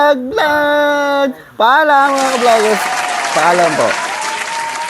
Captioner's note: clapping